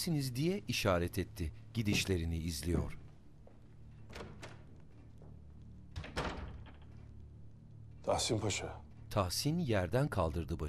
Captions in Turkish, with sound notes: (Baston vurma sesi) (Kapı açılma sesi) (Kapı kapanma sesi) Tahsin Paşa...